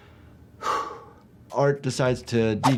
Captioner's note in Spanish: suspira